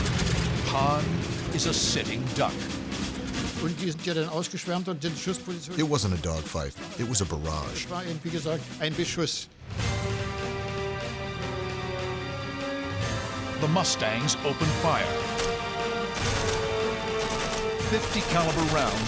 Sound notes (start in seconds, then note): 3.5 speaking german; 9.6 dramatic music; 14.7 gunfire